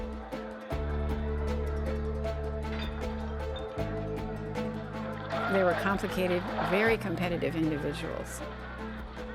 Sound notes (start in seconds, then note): 2.0 glasses clinking